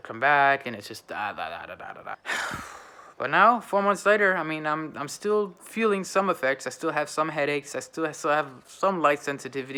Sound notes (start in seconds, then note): 2.2 sighing